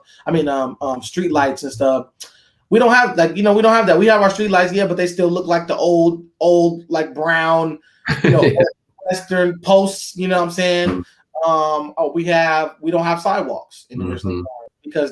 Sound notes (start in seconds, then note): 8.0 laughs